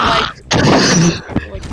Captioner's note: fork Scraping on a plate